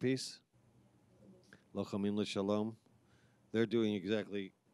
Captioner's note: speaking in foreign language